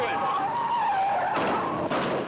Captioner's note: tires screeching; car thudding